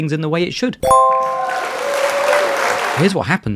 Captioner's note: bell dings; audience claps